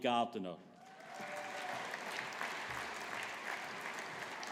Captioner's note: audience applauding